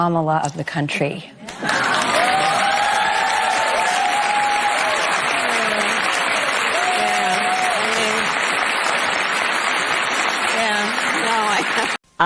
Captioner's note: cheers